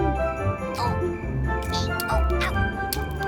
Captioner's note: moaning